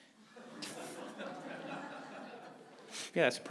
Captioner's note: audience laughing